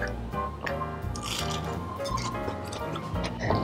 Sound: crunches

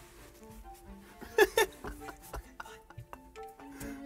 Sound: laughs

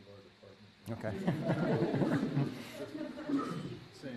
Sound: laughter

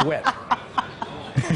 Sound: laughter

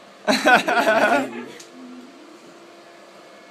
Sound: they laugh

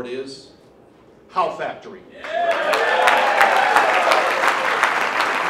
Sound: applause

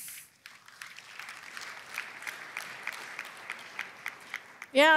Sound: applause

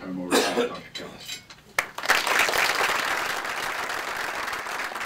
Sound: applause

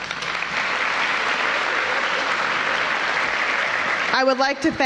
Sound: applause

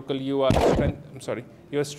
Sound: microphone Static

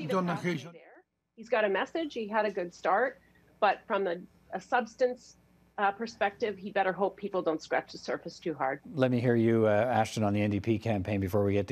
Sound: speaking French

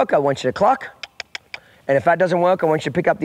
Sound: clucking

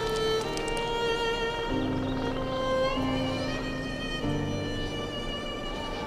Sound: somber music; wind whistling

